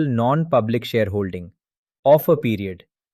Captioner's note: thoughtful